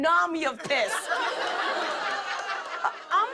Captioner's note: laughter